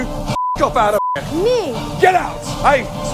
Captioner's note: beep